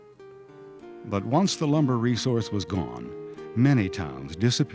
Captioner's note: voiceover